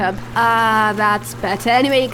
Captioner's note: water bubbling